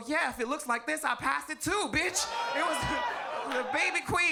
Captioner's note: audience groans and laughs